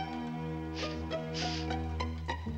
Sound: sniffs

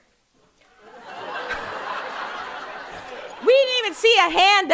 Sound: audience laughing

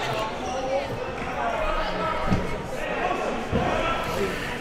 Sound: crowd yelling

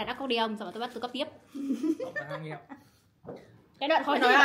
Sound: giggles

